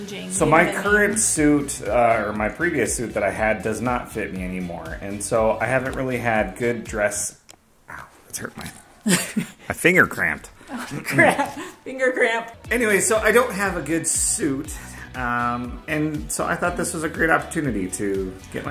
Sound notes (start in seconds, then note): 9.0 laughing